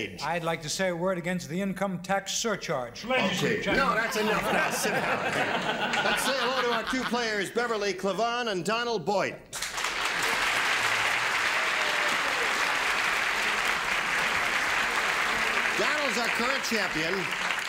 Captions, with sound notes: -I'd like to say a word against the income tax surcharge. -Okay, no, that's enough. -Ladies and gentlemen-- -That's enough. (laughter) Let's say hello to our two players, Beverly Clevon and Donald Boyd. (applause) Donald is our current champion.